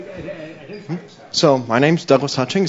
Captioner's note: stammers